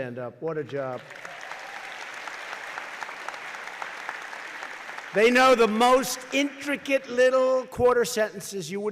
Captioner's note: applause